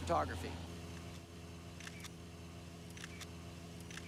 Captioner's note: camera shutter clicking